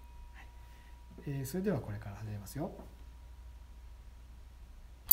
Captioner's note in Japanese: ベルの音